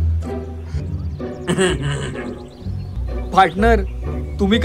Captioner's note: laughs